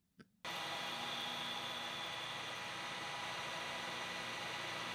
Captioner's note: lathe whirring